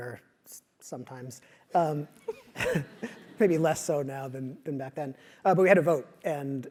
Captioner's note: laugh